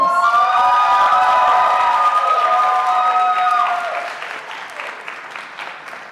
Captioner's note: audience cheering and applauding